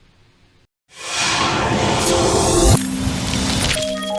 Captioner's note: whooshing